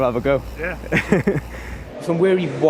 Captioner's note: laughing